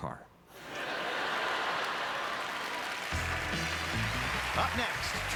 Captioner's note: audience laughter; applause